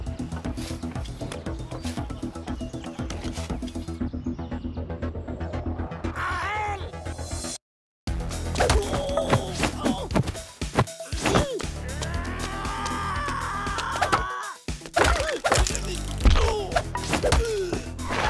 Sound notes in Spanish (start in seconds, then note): 3.3 Música de tensión; 11.1 Hombre grita